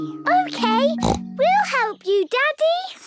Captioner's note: snorts